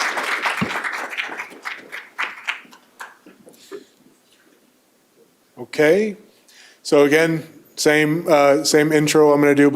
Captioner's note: applause